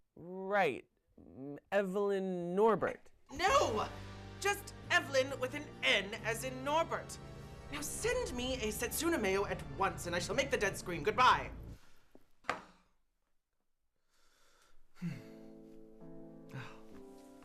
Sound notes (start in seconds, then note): 12.2 sighing; 15.1 emotional piano music